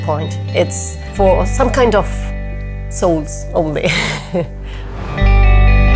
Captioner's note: laughs; soothing guitar music